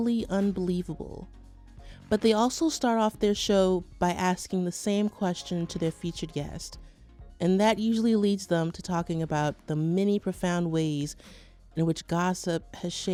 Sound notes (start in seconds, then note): none